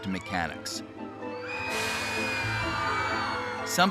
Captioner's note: riders screaming